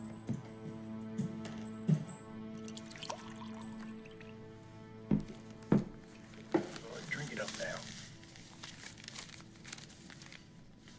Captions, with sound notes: (liquor splashes) - Drink it up now.